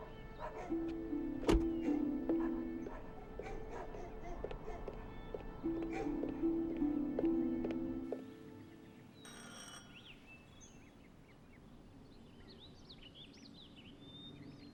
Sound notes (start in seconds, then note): 9.3 doorbell buzzes